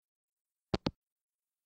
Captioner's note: hangup